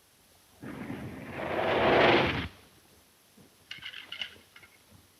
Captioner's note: tires screech